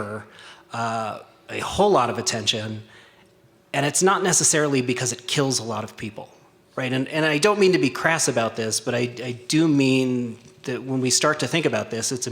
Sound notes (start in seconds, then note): 7.1 stutters